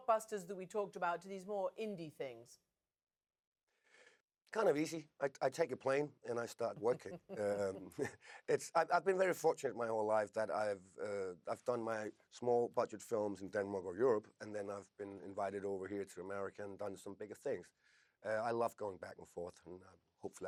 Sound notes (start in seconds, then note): 6.4 chuckling